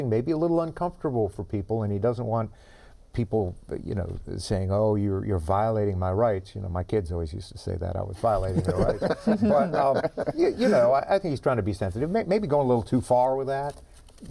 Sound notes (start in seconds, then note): 10.4 laughter